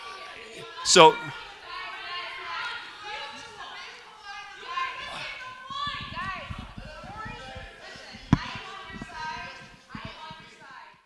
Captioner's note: crowd shouting